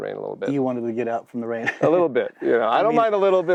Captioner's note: laughs